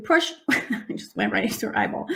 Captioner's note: laughing